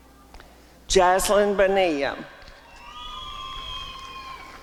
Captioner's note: applause and cheering